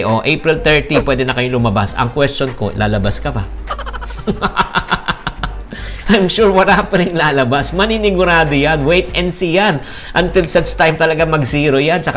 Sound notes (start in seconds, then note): 3.6 laughs